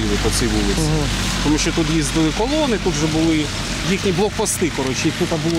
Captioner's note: russian